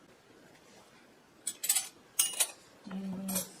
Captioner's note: clink, clink